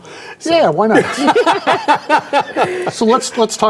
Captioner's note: laughing